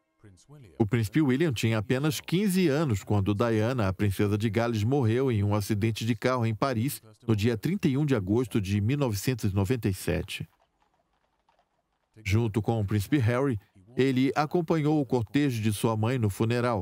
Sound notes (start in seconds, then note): 0.2 voiceover; 10.5 horses' hooves clomping